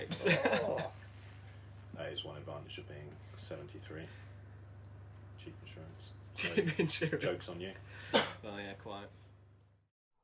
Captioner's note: laughter